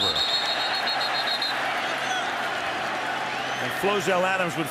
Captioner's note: whistle